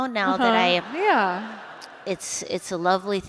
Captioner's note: laughter